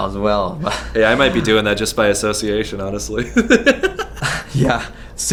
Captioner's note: laughs